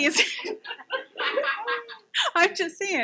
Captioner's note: audience laughing